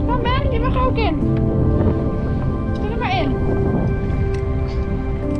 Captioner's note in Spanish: hablando holandés